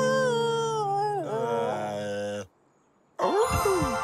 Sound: howls; moans

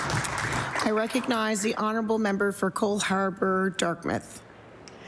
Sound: applause

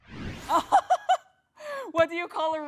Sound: woman laughing

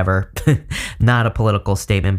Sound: chuckles

